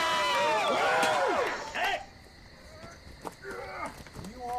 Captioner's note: cheers